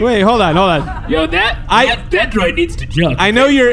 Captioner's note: calmly